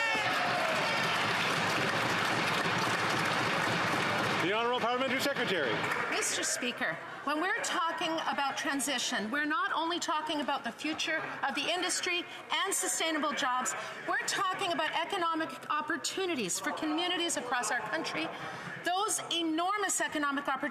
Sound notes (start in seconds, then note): 4.9 applause